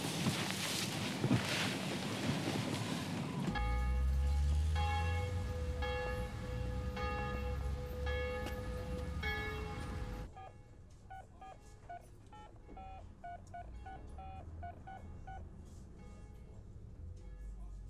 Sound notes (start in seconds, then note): 3.5 bell tolls; 10.6 beeping